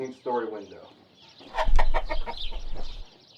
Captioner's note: chicken clucking